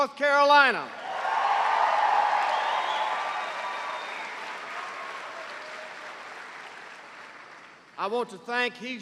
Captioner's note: cheers and applause